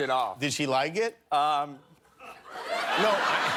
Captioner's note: laughter